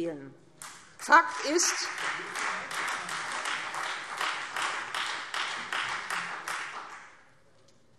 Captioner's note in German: Beifall Freie Demokraten